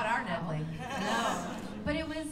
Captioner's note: laughter